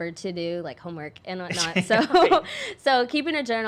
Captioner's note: laughing